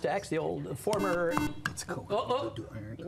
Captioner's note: buzzer